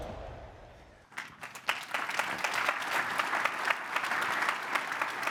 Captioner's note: crowd applauds